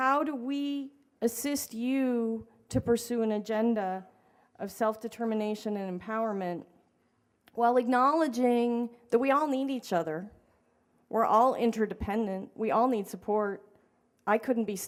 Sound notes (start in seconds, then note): none